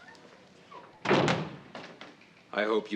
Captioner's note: door slams